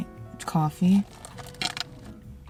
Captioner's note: sips